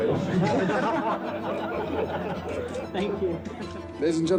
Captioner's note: people laugh